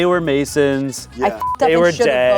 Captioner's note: beep